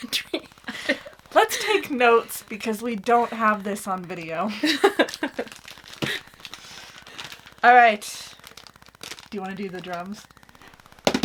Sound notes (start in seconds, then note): 6.2 laughs; 11.0 drumming